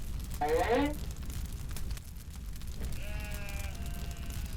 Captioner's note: fire crackling